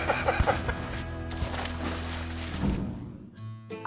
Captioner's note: both laugh; water splashing sound